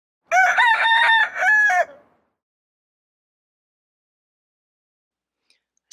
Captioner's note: rooster Crow